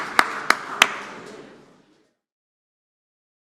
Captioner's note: applause